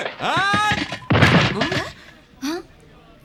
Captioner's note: sound of hitting the ground